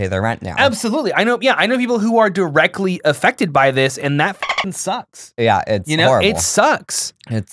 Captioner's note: dolphin noise